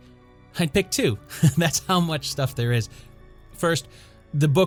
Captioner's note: laugh